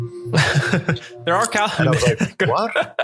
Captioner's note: laughs